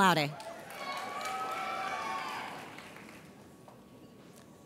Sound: audience cheers

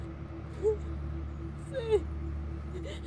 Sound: Cassidy crying

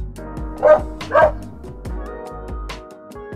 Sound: dog bark

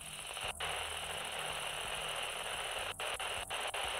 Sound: static crackling

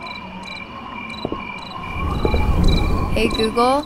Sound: insects chirping; feet tapping

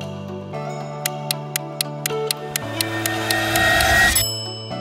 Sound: timer ticking; bell dings

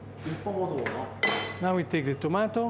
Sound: speaking Italian

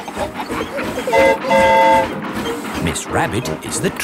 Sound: train whistle toots

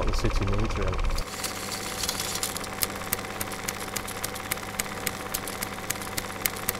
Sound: projector runs out of film

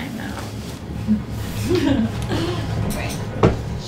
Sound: giggling

